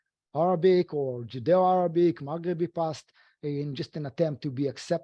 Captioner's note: speaking foreign language